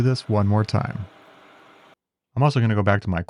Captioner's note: machinery whirring